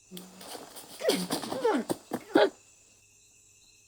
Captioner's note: leaves rustling; grunting